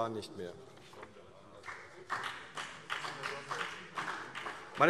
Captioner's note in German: Beifall CDU und BÜNDNIS 90/DIE GRÜNEN